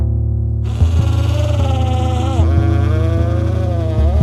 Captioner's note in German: Surren eines Elektrowerkzeugs